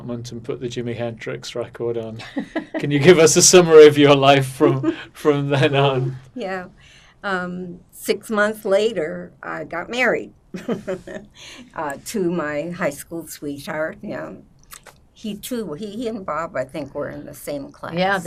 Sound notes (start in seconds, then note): 2.2 laughing; 10.6 laughing